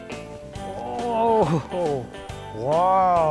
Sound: groaning

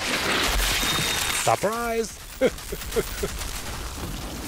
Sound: laughs

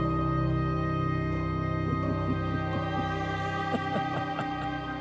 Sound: laughing

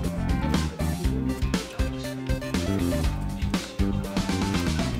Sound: laughs

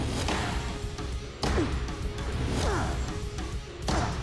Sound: tense music playing; grunting

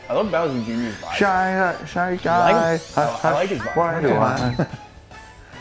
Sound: laugh

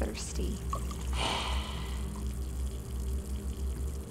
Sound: exhales final breath

